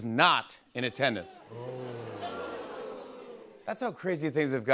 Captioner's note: audience oohs